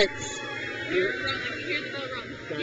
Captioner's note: crowd cheers